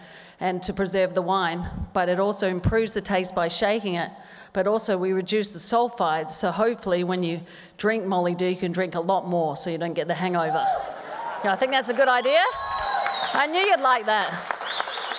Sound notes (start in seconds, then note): 10.5 cheers; 14.9 applause